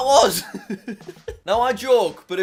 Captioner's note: laughs